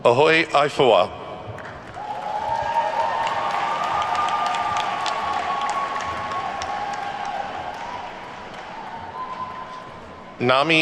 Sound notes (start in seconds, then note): 1.6 attendees whooping and clapping